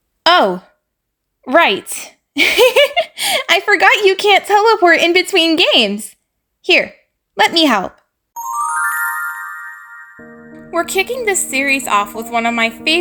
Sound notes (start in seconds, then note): 2.4 giggles; 8.3 magical sounds